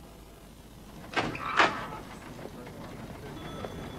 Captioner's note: latch clicks